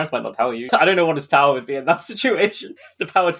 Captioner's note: laughing